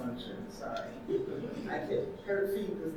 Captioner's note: audience laughing